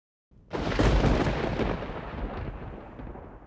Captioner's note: thunder